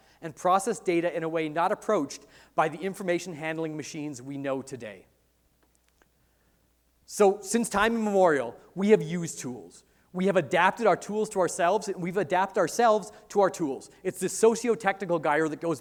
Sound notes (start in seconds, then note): none